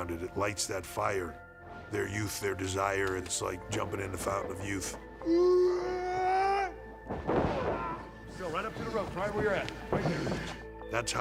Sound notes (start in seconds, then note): 5.7 wrestler grunting